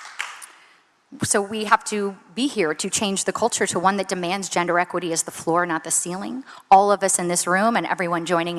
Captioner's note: applause